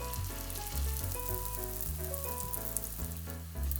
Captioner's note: sizzle sizzle~ 🫧